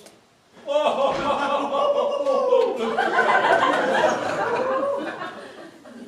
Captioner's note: Dracula and Genghis chuckle